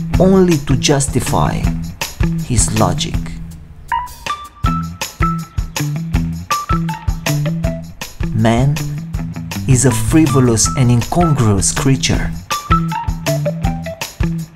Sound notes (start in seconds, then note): none